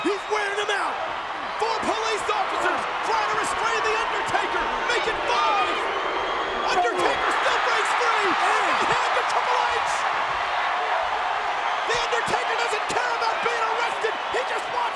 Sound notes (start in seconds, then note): 10.5 crowd cheering